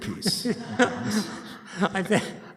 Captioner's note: laughter